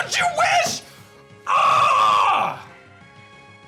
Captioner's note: grunts